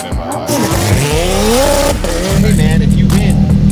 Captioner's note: engines revving